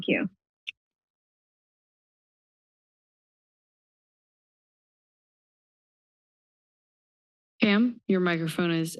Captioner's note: silence